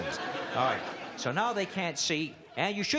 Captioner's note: laughter